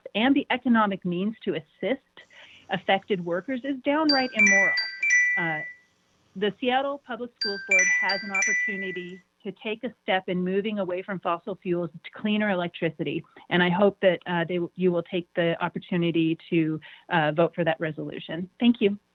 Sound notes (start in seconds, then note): 4.0 chime